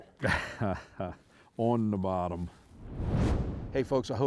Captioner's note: laughs